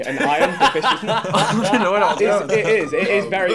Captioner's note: laughing